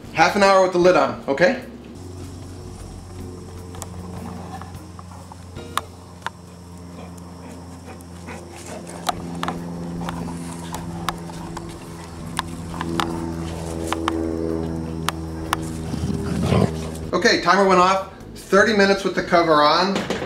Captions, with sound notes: Half an hour with the lid on, okay? (light playful music) (dog panting) (dog growling) Okay, timer went off. 30 minutes with the cover on.